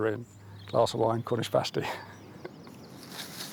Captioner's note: laughs